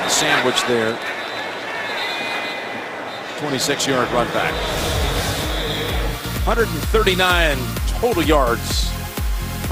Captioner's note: crowd noise